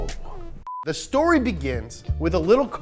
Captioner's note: beep